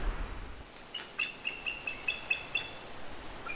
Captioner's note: bird chirping